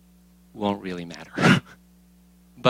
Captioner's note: laughs